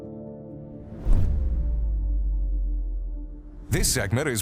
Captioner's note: gentle music; logo whooshes